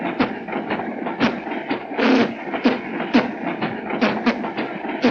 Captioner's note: mimicking a musical instrument